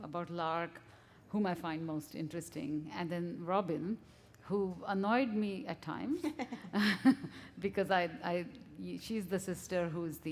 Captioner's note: chuckle